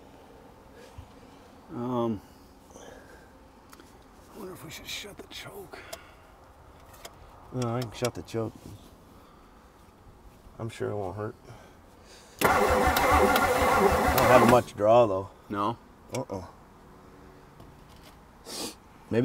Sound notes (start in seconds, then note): 12.4 vehicle engine clicks; 12.4 vehicle engine humming